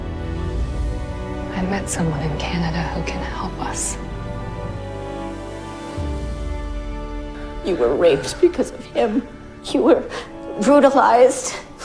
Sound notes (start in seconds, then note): 8.0 voiceover